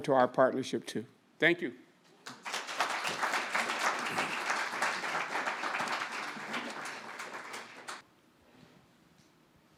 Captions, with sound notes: to our partnership too. Thank you. (audience applauding)